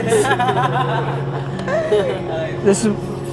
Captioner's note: both laughing